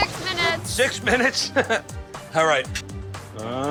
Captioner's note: chuckles